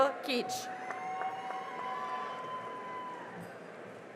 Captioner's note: cheering and applause